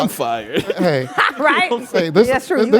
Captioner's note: laugh